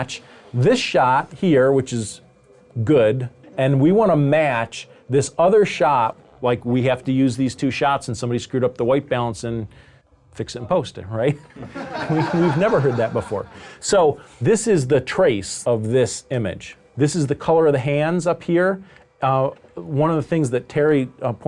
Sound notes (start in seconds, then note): 11.5 audience laughs